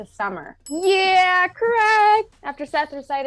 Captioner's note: bells ring